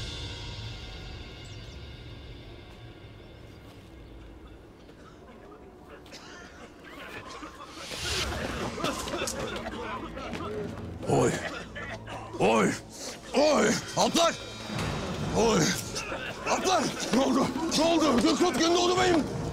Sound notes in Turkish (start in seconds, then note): 4.9 Öksürüyorlar